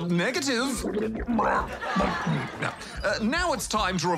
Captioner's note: stomach rumbles; mutters